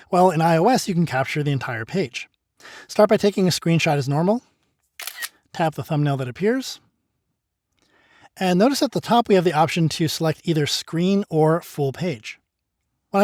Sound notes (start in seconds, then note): 5.0 camera snaps